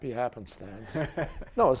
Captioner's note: chuckles